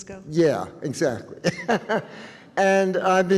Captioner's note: chuckles